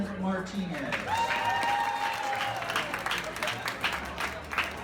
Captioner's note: claps and cheers